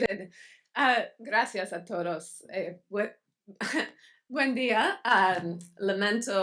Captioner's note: speaks in Spanish